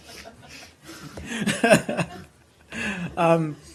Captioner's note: laughter